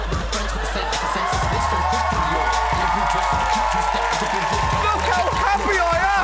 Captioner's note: audience cheering; dance music playing